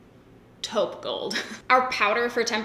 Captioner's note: giggles